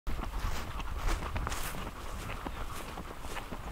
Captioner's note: footsteps rustling